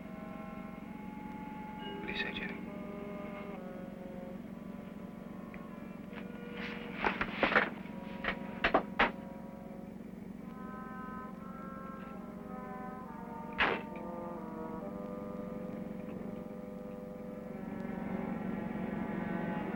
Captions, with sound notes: What do you say, Jenny? (door closing)